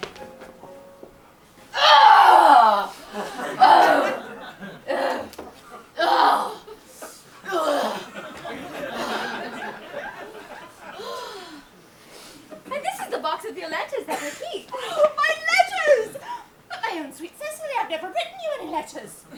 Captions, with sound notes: (Cecily grunts) (audience laughs) And this is the box of your letter that I keep. - My letters! But, my own sweet Cecily, I have never written you any letters.